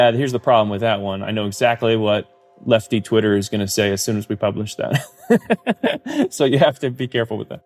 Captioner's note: laughs